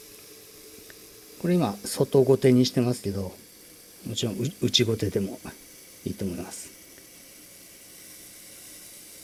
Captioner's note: woodworking tool